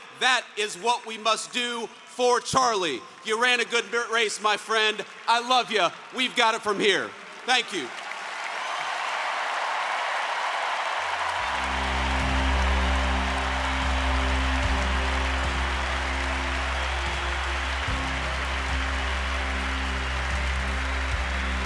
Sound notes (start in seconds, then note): 8.6 applause